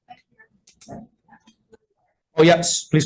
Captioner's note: speaking faintly